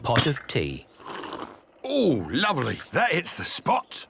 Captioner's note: sipping